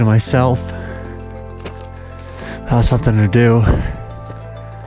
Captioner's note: footsteps clomping